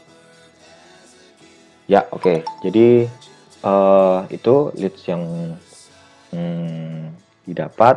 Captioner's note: notification sound